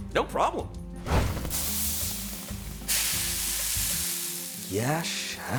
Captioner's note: sizzling